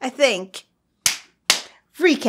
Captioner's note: clap clap